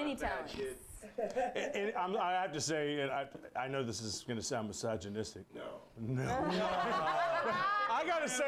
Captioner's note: laughter